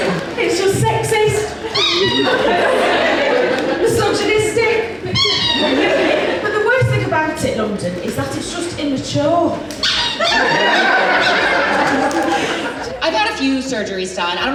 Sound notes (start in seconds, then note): 0.0 audience Laughs; 1.5 audience Laughs; 1.6 squeak noise; 5.0 squeak noise; 9.8 squeak noise; 9.9 audience Laughs